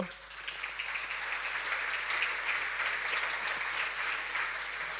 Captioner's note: audience clapping